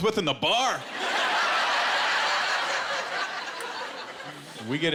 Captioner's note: laughter